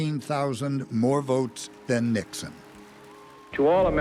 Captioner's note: applause